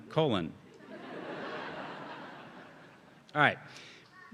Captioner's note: audience laughing